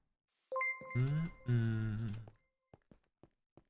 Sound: hums

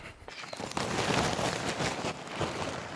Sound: rustling, clattering

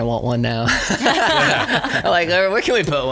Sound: laughs

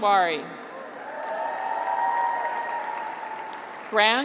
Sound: graduates cheer

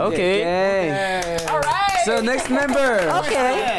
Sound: claps

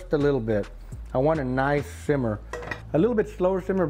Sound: glass clinks

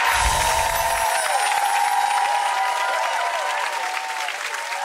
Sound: crowd cheering

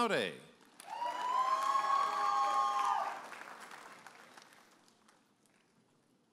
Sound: audience applauding and cheering

